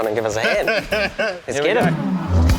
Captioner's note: laughs